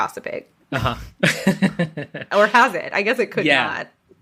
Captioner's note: laughs